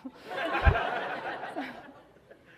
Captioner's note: audience laughing